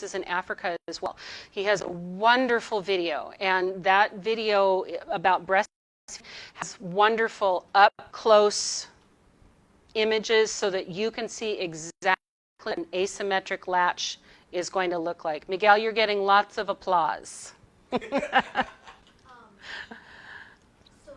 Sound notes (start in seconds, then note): 17.9 laughs